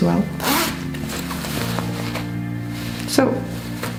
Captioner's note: unzipping bag